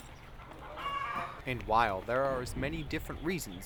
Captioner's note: chicken sounds